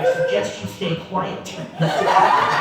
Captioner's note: laughter